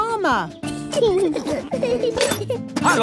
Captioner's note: children giggling